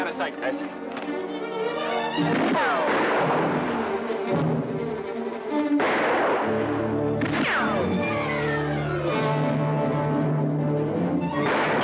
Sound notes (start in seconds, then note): 2.2 guns firing